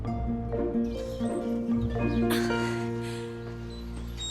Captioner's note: birds chirping